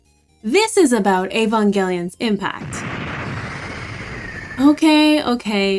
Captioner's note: angel Scream